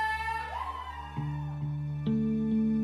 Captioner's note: cheering